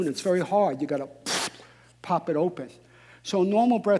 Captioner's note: blowing out breath